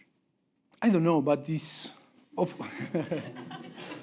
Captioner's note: laugh break